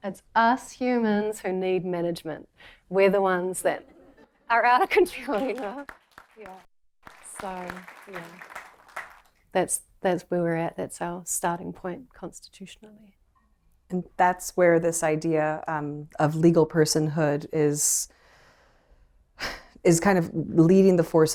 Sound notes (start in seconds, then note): 2.5 laughter; 7.0 applause